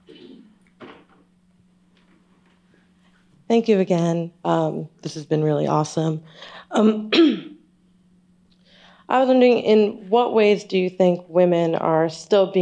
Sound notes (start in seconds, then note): 4.0 clears throat